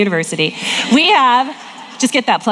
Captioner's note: audience laughing